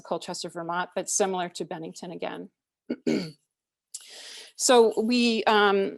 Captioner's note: clears throat